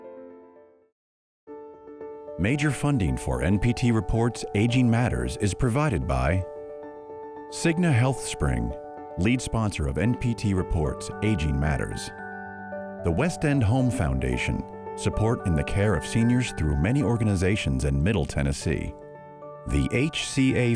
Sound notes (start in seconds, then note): 3.2 voiceover